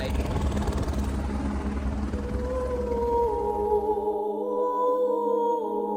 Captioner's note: helicopter motor whirring; ethereal vocal music